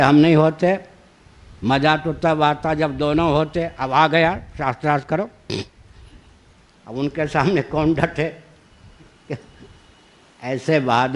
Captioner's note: laughs